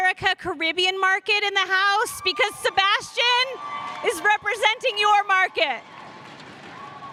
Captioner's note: cheers and applause